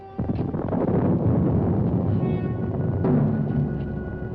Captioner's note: thunder rumbling